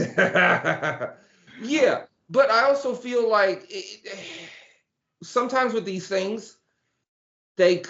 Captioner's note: laughing